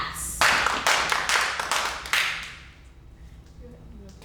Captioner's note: all claps